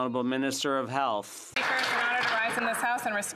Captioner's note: some Applause